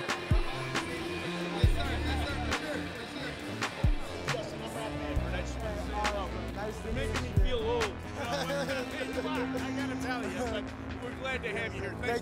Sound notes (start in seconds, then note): 0.1 upbeat music continues; 8.1 laughing